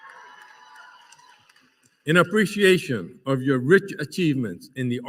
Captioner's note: applause